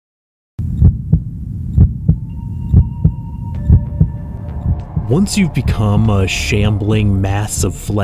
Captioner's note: heartbeat